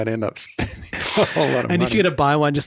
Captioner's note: laughs